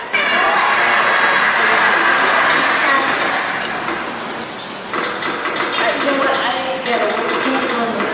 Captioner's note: cheering sound effect